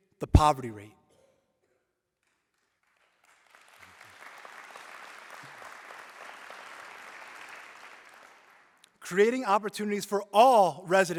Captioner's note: applause